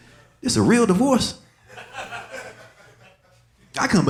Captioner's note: audience laughing